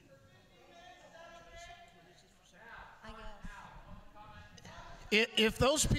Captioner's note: shouting continues